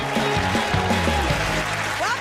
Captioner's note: cheers and applause